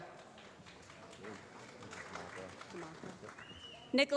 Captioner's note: applause